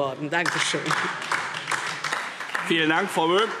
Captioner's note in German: Beifall DIE LINKE und SPD